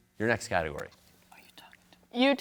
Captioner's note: whispers